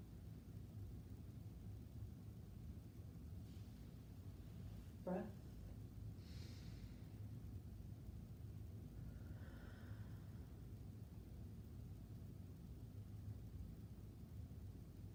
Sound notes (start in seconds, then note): 6.5 breathing deeply